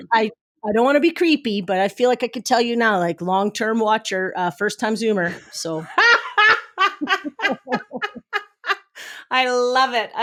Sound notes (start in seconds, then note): 5.8 both laughing